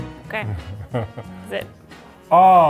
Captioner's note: chuckling